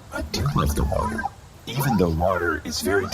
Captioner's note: quietly